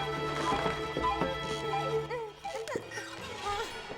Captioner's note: straining